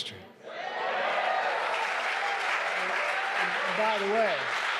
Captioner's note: crowd cheering and applauding